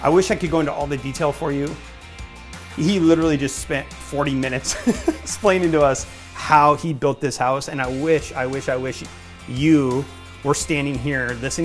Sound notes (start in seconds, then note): 4.6 laughs